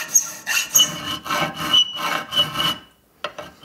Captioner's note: high squeaking